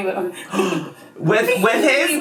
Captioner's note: gasps